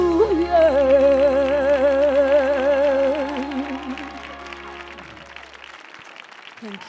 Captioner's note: audience applauding; audience cheering